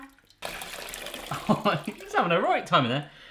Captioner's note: laughs